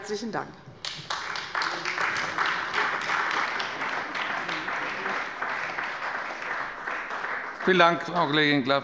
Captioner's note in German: Beifall bei der CDU und dem BÜNDNIS 90/DIE GRÜNEN